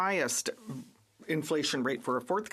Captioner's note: speaking French